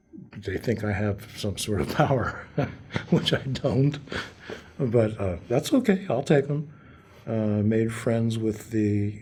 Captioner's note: laughter